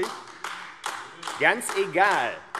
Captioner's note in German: Beifall AfD